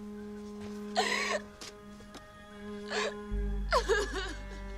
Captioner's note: sobbing continues